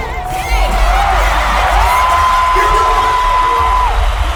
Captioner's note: cheering